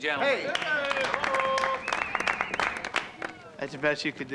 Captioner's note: cheering and applause